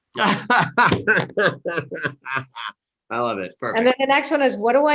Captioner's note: laughs